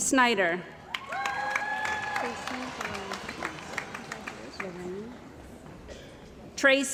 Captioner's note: cheering & Applause